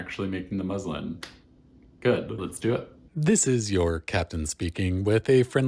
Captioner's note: claps; cheesy voiceover